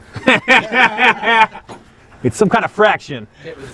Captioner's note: guys laugh